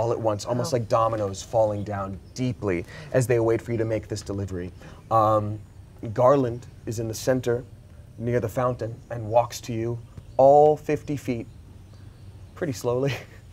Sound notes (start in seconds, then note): none